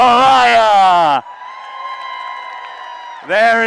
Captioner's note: cheering